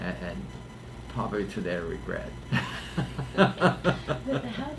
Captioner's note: laughs